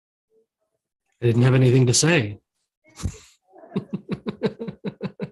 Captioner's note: chuckles